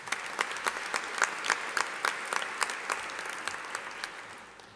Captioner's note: audience applauding